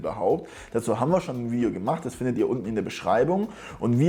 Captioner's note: german